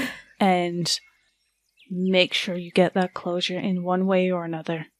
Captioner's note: chuckles sadly